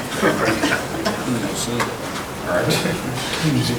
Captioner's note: chuckling